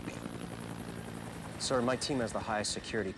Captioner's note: helicopter whirring